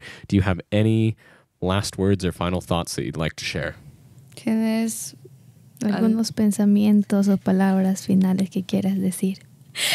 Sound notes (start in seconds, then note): 4.5 speaks in Spanish